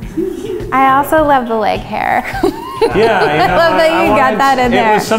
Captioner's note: laughs